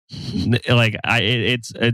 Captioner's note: giggles